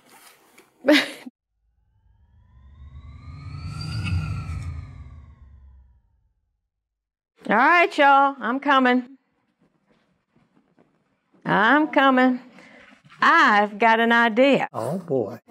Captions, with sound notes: ( laugh ) (swoosh) All right, y'all. I'm coming. I'm coming. I've got an idea! Oh boy!